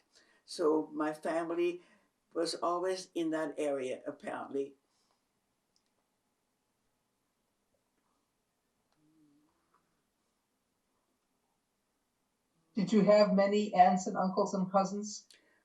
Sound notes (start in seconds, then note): 6.4 pauses 6 seconds